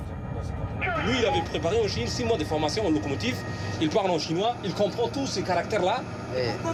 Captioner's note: speaking foreign language